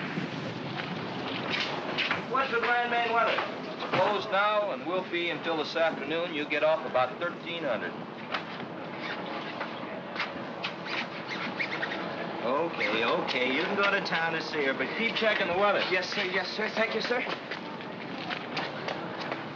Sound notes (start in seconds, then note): 10.6 zipper zipping